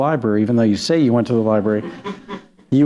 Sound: laughter

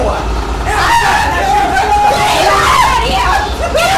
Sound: screaming

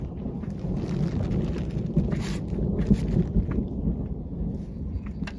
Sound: thunder

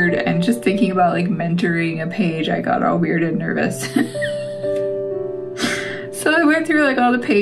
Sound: laugh

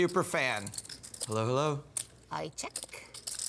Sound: voiceover

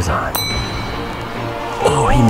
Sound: bell dings

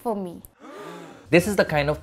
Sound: gasping

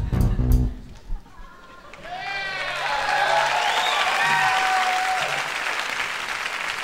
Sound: audience applauding

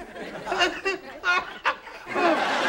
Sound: coughing

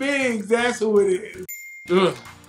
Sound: bell dings

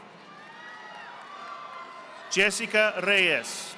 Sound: audience applauding

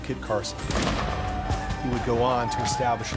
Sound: gunshot

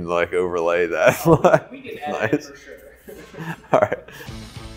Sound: laughs

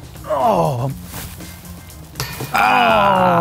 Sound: clothing rustling; disc ringing

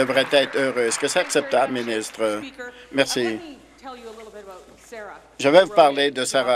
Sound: applause

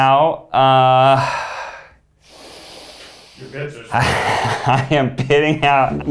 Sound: sighing

